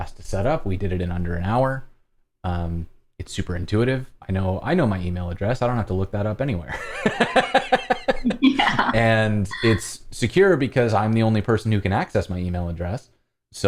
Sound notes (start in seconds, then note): 6.7 laughter